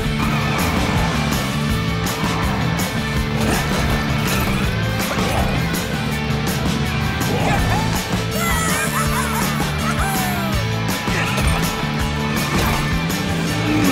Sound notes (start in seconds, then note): 8.3 cheering